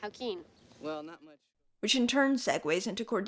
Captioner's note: sound fades out